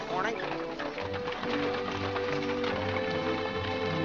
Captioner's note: hooves trotting & cart rattling